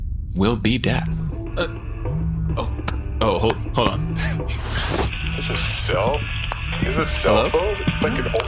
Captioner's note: phone rings